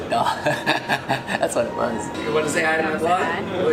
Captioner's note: laughs